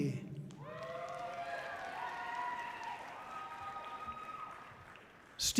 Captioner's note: audience cheering loudly